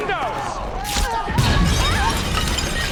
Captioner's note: glass shattering